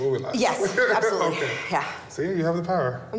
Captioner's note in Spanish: risas